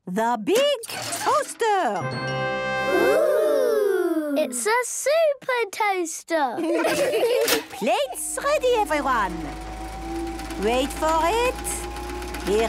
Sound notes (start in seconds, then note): 7.6 clicks; 10.9 super toaster vibrating